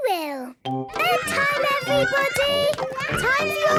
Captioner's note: children playing